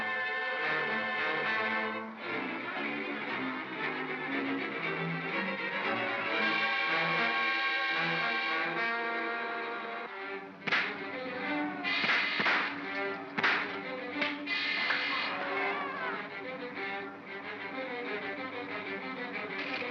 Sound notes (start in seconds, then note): 0.1 suspenseful music; 11.8 loud pops; 13.3 crack; 15.6 suspenseful music; 19.7 propeller clatters & whirrs